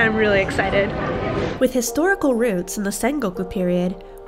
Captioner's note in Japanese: 風の音